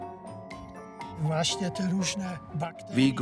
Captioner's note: speaks Polish